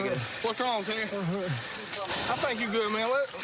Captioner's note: radio chirps